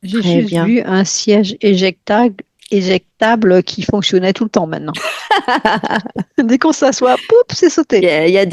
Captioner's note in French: rires